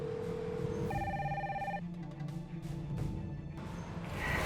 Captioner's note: phone ringing